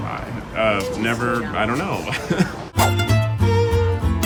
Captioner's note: laughs; upbeat jazzy music